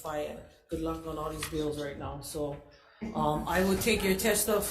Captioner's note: crowd laughing